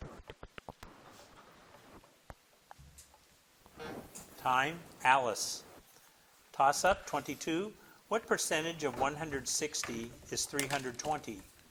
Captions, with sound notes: (timer buzzes) Time, Alice. Toss-up, 22. What percentage of 160 is 320?